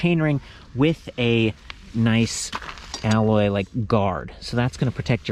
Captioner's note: taps